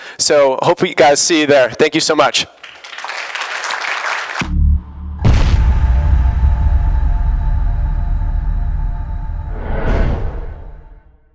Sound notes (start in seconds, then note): 2.4 applause; 5.2 crash; 9.7 heavy swoosh